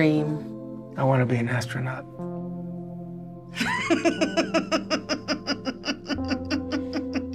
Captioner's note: laughs